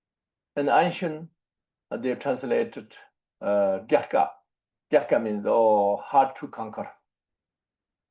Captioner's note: tibetan